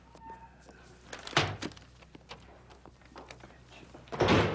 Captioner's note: door closing